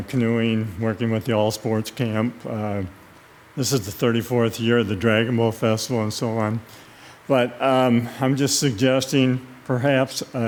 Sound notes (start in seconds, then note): none